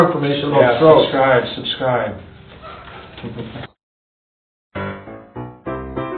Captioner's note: laughs; jaunty piano music